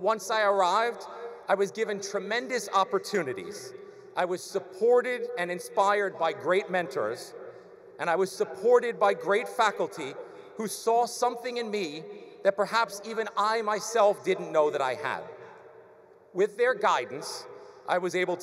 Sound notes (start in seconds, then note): none